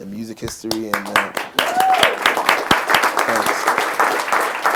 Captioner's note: applause